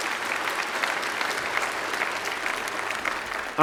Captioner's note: applause